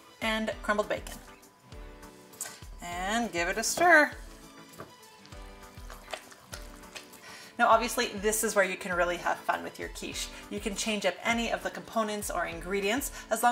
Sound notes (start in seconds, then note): 5.0 ingredients squishing